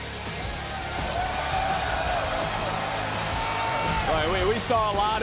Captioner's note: crowd cheers